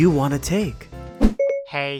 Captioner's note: Siri start sound